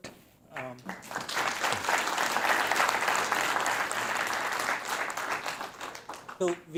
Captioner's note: applause